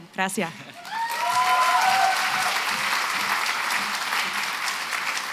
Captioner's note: applause